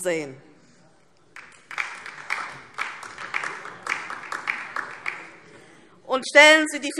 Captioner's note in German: Beifall DIE LINKE